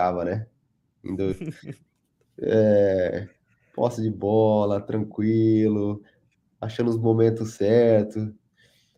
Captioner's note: laughs